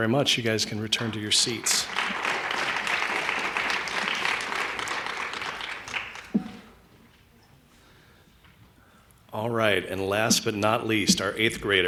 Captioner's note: applause